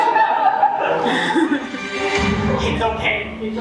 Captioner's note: audience laughs